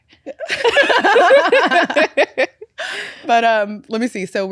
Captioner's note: both laughing